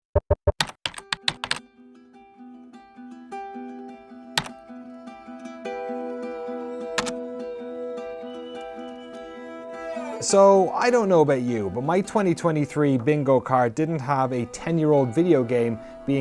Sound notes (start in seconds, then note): 0.2 logo tapping; 1.1 bright music